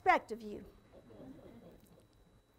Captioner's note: audience chuckles